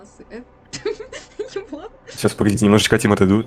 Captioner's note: laughing